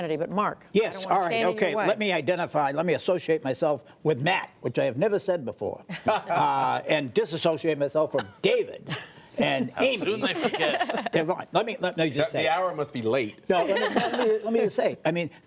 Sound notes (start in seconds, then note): 5.9 laughter; 8.8 laughter; 13.6 laughter